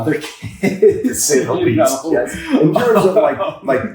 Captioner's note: laughs